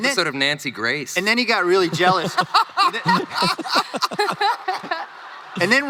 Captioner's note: crowd laughing